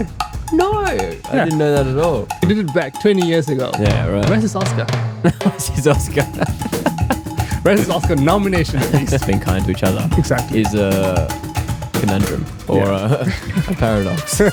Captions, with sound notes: No, I didn't know that at all. He did it back 20 years ago. Where's his Oscar? Where's his Oscar? (Laughs) Where's his Oscar nomination at least? being kind to each other-- Exactly. Is a conundrum or a PARADOX.